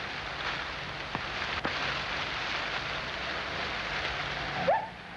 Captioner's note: none